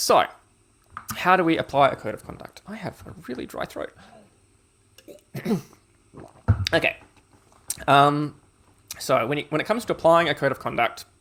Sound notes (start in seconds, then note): 5.0 coughs